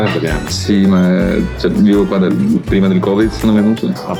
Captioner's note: speaking Italian